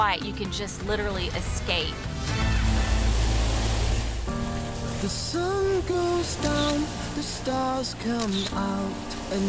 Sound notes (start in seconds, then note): 2.0 calm piano music; 2.2 waves crashing